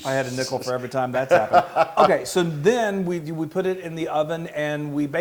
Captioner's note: laugh